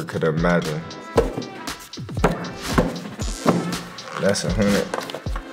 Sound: money hitting table

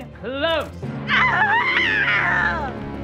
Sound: screaming

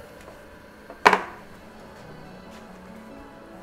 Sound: ink press buzzing; rhythmic instrumental music

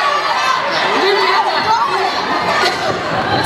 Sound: people chattering and laughing

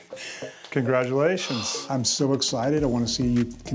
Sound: exhales

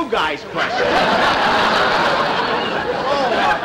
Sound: audience Laughing

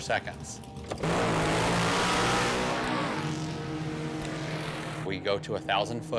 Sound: engines revving

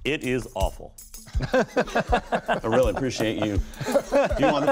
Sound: laughter

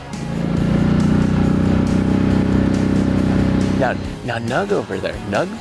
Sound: boat engine revving

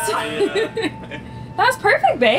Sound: laughing

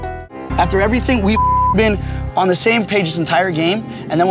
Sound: beep

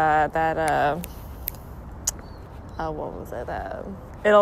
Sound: snaps fingers

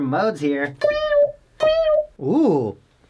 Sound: continues making meows

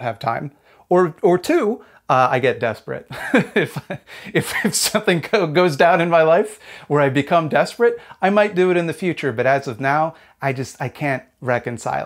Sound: laughs

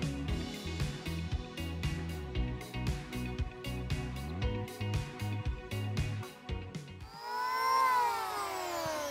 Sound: high pitch whine of power planer, no additional audio

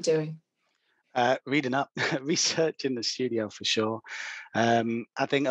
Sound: laughs

